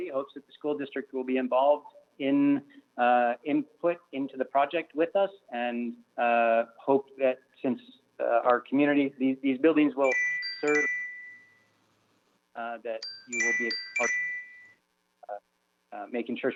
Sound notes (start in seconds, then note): 10.0 chime